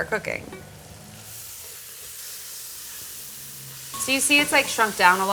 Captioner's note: pot sizzling